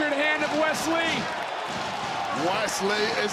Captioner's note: audience cheering